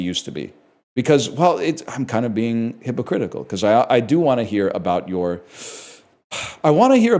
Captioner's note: sighs